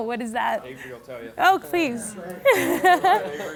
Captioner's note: laughing